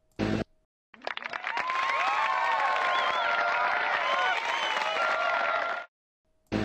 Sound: applause

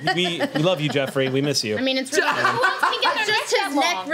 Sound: overlapping chatter

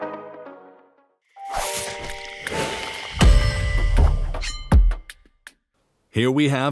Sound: logo whooshing and thudding

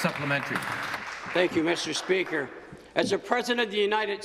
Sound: some Applause

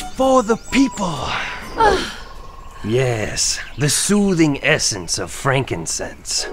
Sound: satisfied sigh

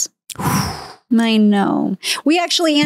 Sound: sighs

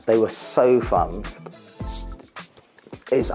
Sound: stutters

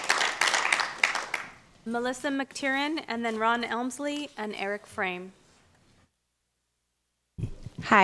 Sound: applause

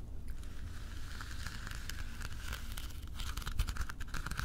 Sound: nails swishing

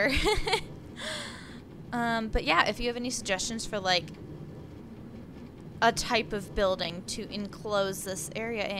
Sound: laughs

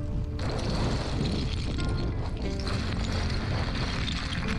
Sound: rocks crashing

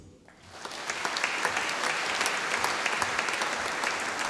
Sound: audience applauding

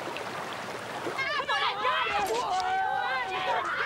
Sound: girls yelling

